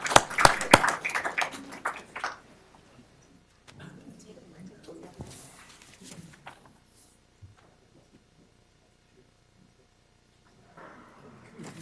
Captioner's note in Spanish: Aplausos